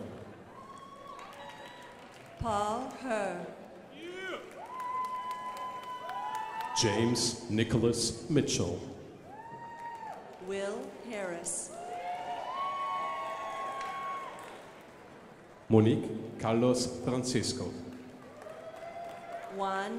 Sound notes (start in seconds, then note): 0.4 crowd applauding; 9.2 crowd applauding; 17.6 crowd applauding